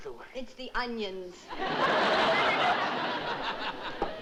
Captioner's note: laughter